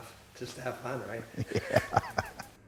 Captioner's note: laughter